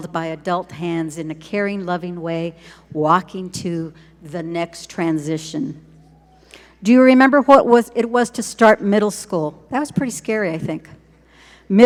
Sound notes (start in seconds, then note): none